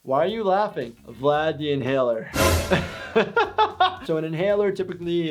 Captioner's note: laughing